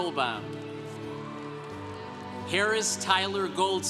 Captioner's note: congregation cheering